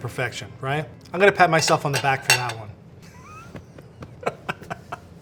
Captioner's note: laughing